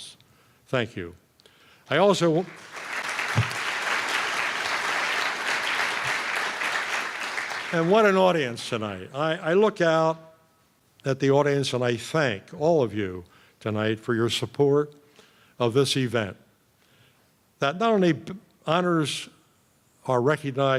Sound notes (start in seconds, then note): 2.2 applause